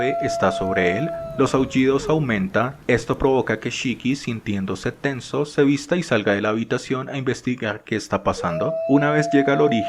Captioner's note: howling